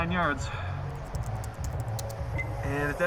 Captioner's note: typing